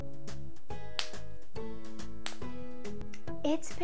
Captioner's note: highlighter pen snapping